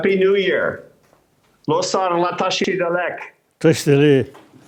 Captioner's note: speaking foreign language